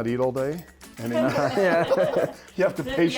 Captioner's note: laughter